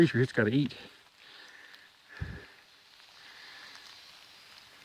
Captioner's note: rain pattering